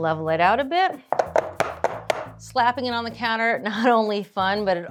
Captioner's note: pan banging